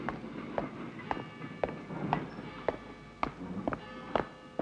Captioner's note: clock chimes